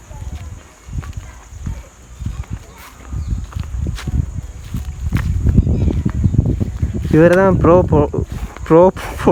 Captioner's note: footsteps